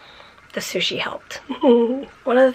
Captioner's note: giggles